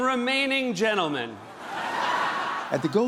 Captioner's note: laughter